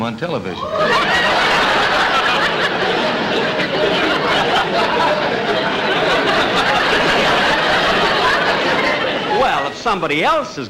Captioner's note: audience Laughing